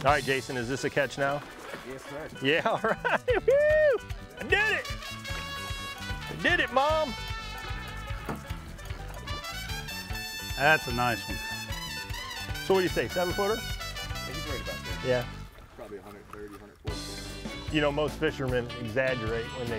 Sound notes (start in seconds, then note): 3.5 cheers; 8.4 spanish music